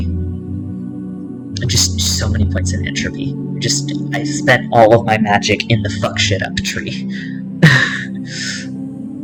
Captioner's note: laughter